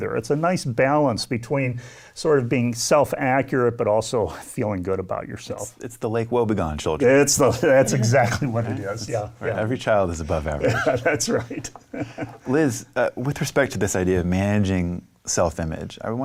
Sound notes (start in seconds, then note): 10.4 laughs